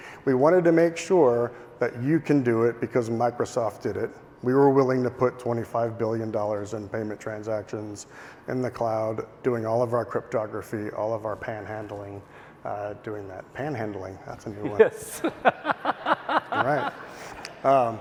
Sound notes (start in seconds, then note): 14.7 laughing